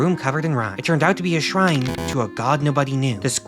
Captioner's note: rolling dice, failure buzzer